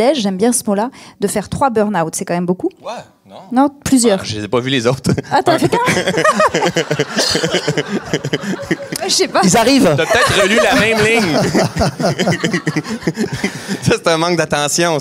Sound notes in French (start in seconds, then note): 5.5 rires